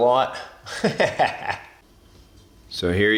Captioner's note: laughs